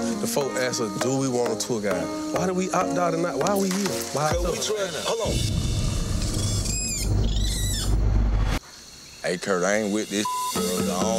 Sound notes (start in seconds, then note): 5.2 ominous music; 6.3 monkey chirping; 10.2 beep